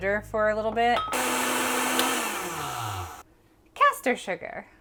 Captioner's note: blender whirring